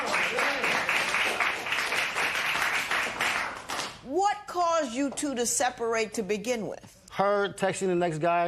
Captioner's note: applause